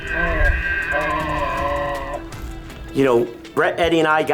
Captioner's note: bulls bugling